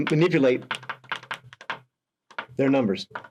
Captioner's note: pen tapping